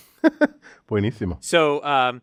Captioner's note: laugh